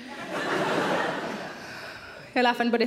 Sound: audience laughs

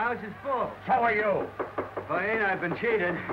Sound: knocking at the door

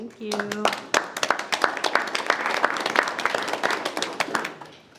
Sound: board applauds

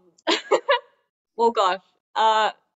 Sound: laughs

